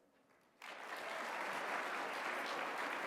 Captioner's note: applause